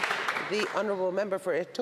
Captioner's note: some Applause